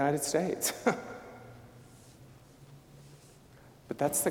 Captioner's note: chuckling